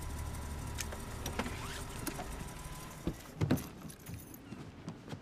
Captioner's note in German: motor wird abgeschaltet